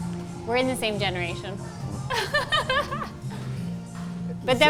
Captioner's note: laughs